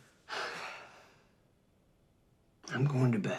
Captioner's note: Terry sighs